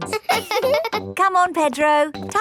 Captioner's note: both laughing; chuckles